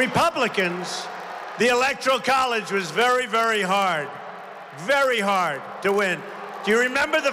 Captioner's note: applause